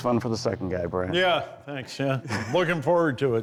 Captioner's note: chuckles